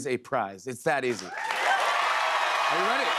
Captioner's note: cheers and applause